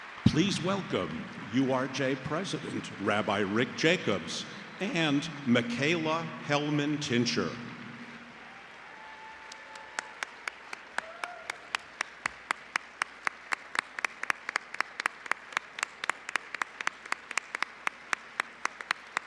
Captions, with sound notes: Please welcome URJ President, Rabbi Rick Jacobs and Micaela Hellman-Tincher. [APPLAUSE]